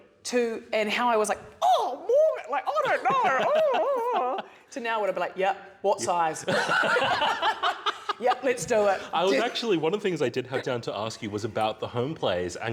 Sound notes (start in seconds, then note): 6.4 laughter